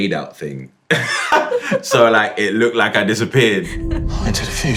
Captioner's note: laughs